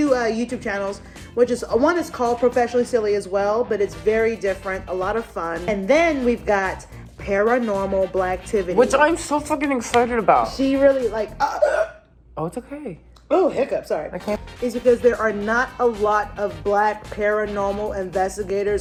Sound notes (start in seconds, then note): 11.4 hiccups